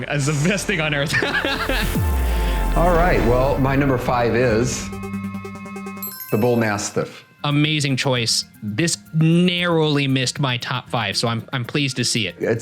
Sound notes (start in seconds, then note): 1.1 laughing; 5.8 bell dinging